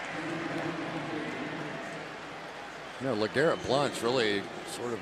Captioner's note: pa announcement